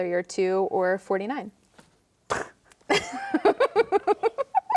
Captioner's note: both laughing